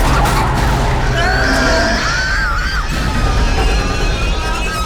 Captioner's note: Mattie screaming